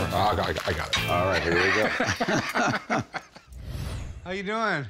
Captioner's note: both laugh